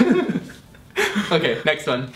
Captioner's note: laughs